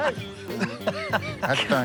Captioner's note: laughing